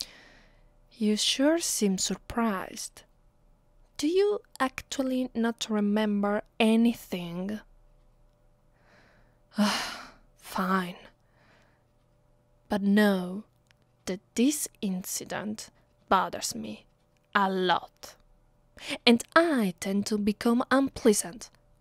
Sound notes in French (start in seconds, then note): 9.6 Soupir